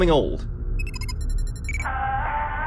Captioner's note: computer beeps